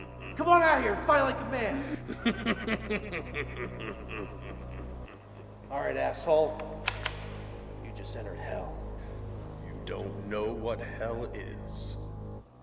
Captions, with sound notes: Come on out here and fight like a man. (X Knight laughing) All right asshole. (gun cocking) You just entered hell. - You don't know what the hell is,